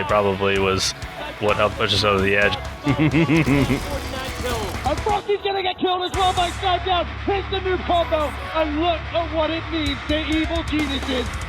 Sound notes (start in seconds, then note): 2.7 laughs